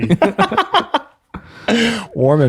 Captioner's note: friars laugh